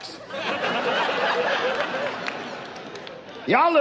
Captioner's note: audience laughs